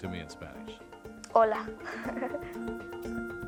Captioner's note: laughs; upbeat music